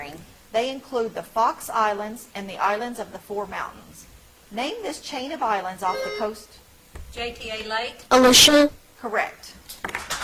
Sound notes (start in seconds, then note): 5.9 bell ringing; 10.0 audience applauds